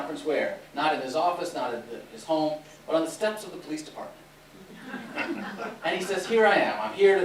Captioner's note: laughter